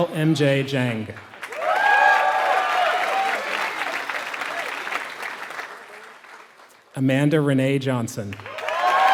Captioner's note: applause; applause